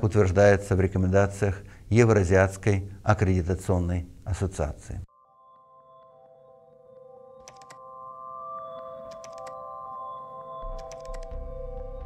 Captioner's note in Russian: звуки кликов